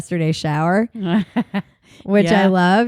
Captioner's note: laughs